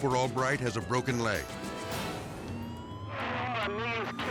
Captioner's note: dramatic music; sirens blaring